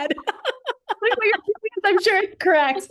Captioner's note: laughter